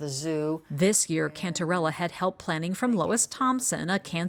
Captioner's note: voice-over